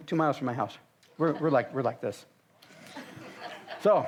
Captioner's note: audience laughs